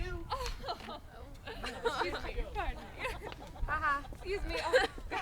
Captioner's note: audience voice: Ha ha!